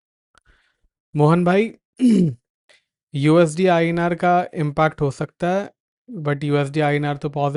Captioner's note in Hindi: गला साफ़ करने की आवाज़